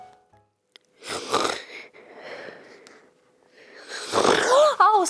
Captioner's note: snoring